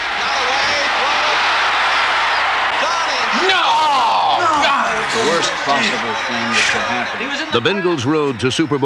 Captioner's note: cheering